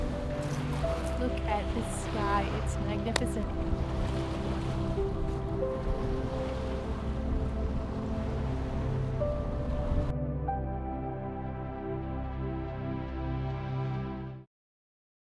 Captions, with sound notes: Look at this sky, it's magnificent. (soft music continues) (water whooshing)